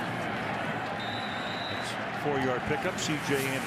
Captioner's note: whistle